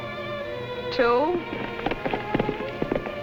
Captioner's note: hooves fading